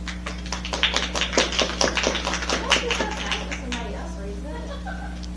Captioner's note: applause